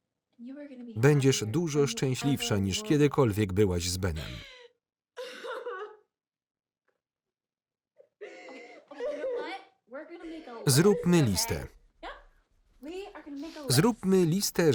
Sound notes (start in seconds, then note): 4.0 sobbing